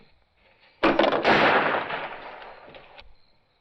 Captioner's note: gunshot